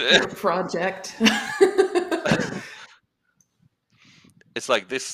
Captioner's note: laughter